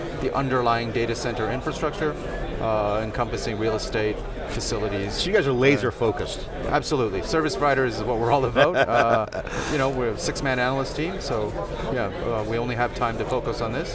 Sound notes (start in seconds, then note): 8.4 laughs